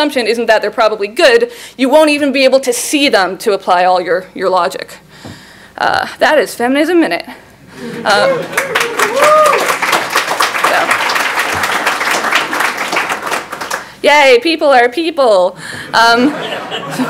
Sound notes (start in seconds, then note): 7.8 laughs; 8.4 clapping